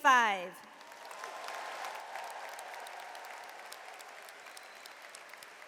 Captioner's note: audience cheers and applauds